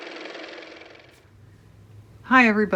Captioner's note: car motor